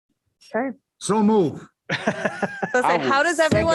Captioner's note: laughter